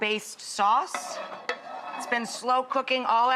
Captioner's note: mug scrapes against pan